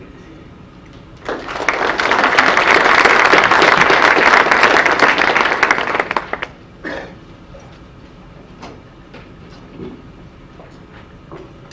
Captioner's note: audience applause